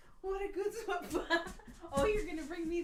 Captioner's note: laughing